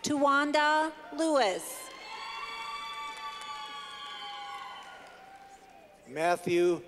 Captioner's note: clapping